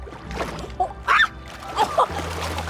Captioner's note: yelps; water splashes; Summer laughs